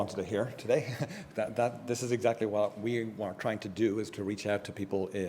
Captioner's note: laugh